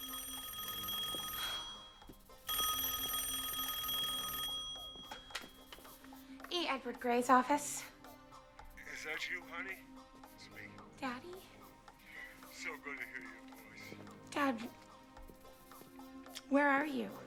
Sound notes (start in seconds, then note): 0.0 telephone rings; 2.2 sighs; 3.2 rings